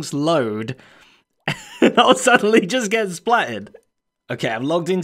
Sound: chuckles

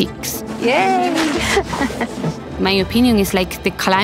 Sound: laughing

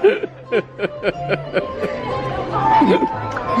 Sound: laughter

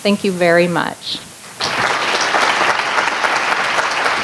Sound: applause

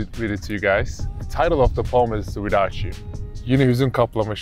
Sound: speaking in Turkish

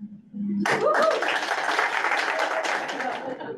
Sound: audience claps

